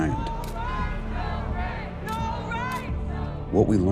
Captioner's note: muffled protesting